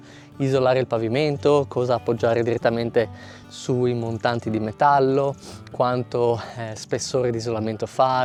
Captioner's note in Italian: sbuffare